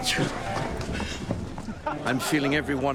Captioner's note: laughter